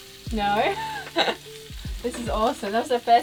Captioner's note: laughs